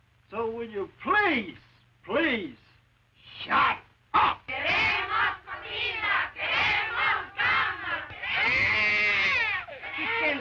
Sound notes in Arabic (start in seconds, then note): 4.4 نساء يهتفن بالشعار باللغة الإسبانية; 8.2 صراخ الطفل